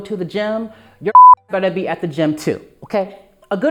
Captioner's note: beep